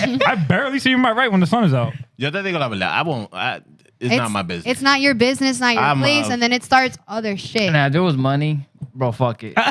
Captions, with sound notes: I barely see you in my right when the sun is out. (Speaking Spanish) It's not your business, not your place. And then it starts other shit. Nah, there was money. Bro, fuck it.